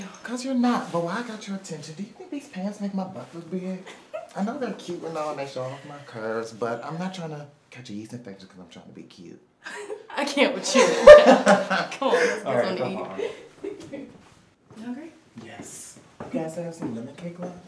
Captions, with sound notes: Cuz you're not. But while I got your attention. Do you think these pants make my butt look big. I know their cute and all and they show off my curves but I'm not trying to catch a yeast infection cuz I'm tryna be cute. (chuckles) I can't with you. (laughing) come on let's go get something to eat. You hungry? Yes, you guys still have some lemon cake left?